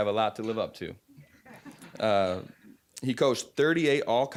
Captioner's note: audience chuckling